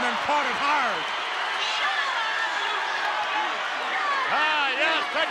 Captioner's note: applause